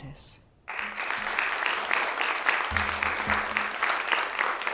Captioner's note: applause